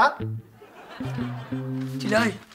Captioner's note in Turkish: Gülme efekti